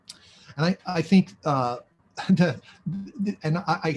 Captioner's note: laughs